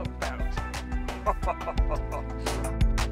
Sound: laughing; upbeat music

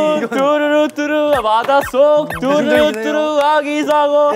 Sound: excited steps

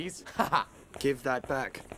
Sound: Squib laughing

